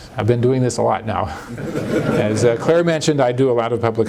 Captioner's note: laughter